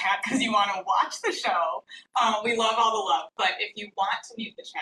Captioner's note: none